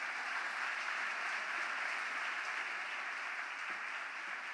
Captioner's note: applause